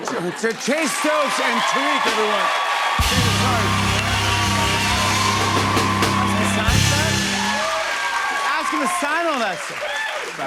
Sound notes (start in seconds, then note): 2.3 cheers and applause